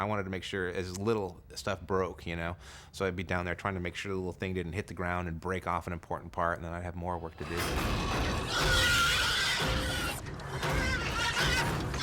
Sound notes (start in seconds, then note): 7.4 squealing